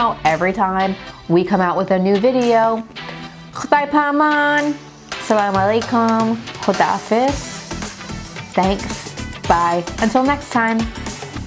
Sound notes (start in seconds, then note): 3.5 speaking foreign language; 4.1 energetic music